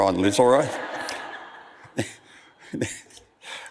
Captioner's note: audience laughs